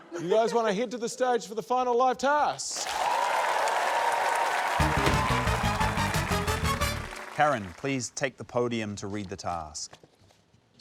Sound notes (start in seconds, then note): 2.7 cheering, applause